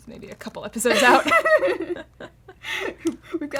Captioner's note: laughter